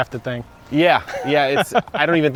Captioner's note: laughing